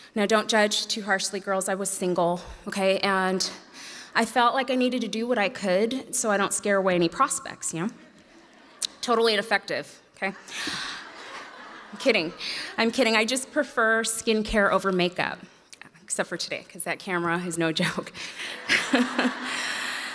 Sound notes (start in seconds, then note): 10.4 audience laughs; 18.5 laughs